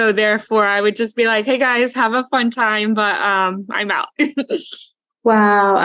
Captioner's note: laughs